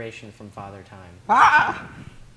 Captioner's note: forced laugh